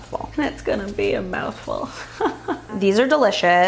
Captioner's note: laughing